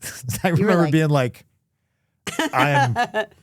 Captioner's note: laughs; laughs